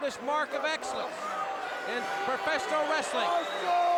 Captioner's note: crowd chatter